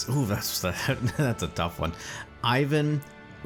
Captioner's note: chuckles